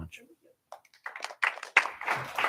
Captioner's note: applause